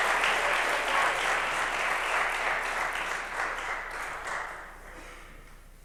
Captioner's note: applause